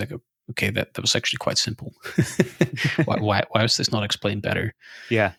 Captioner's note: laughing